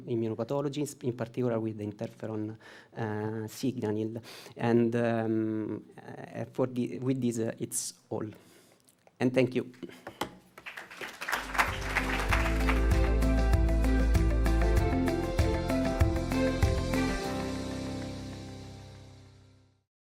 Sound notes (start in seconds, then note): 10.5 applause